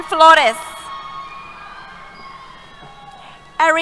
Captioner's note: cheers